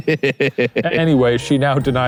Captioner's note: laughing